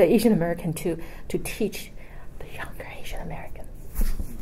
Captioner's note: whispering